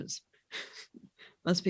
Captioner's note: laughs